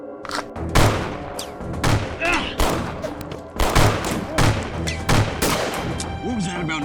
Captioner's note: tense music; gunshots